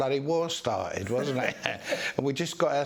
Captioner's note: laughs off screen